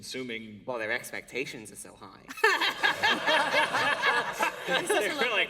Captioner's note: laughter